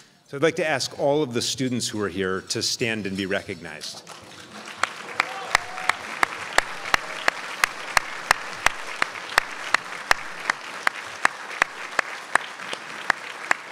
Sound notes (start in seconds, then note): 4.3 crowd applauds